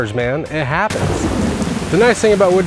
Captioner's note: thunder crashes